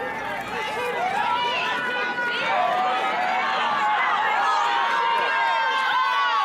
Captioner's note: crowd exclaiming